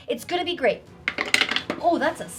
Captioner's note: dice rattling